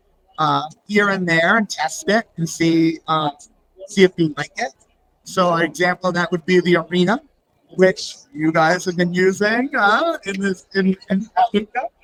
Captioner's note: laughs